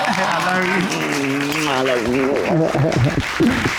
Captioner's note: chuckles